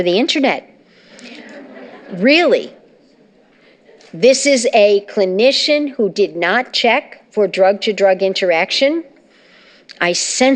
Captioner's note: laughter